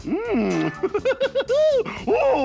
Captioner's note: laughs